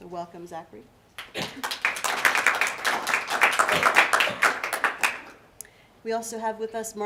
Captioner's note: applause